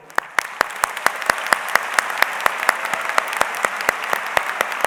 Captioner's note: audience applauds